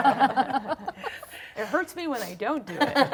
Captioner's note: laughter